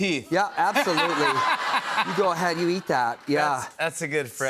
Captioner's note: laughter